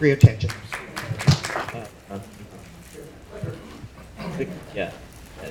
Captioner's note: audience applauding